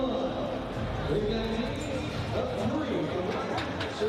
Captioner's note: announcer speaking